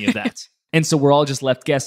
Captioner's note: laughs